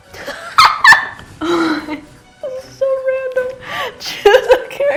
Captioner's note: laughs